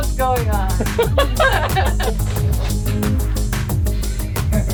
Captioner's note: laughing